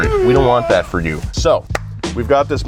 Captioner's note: game character yells